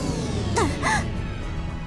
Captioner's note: gasp